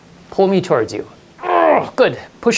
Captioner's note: grunts